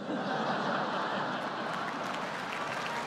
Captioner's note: laughter